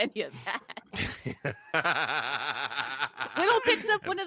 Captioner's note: laughs